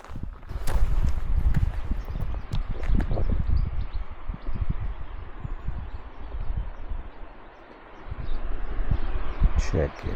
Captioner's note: birds chirping